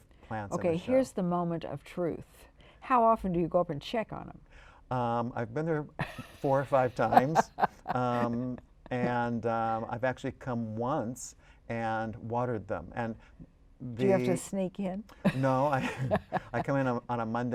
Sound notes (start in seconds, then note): 6.0 laughter